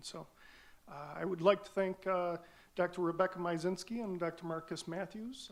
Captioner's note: none